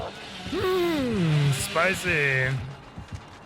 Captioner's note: grunts